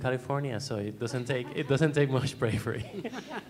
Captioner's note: laughter